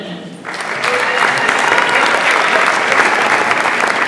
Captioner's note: audience applauds